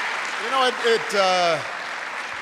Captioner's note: applause